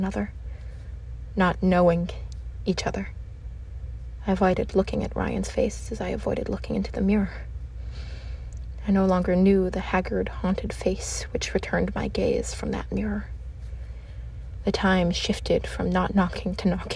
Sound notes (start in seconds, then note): none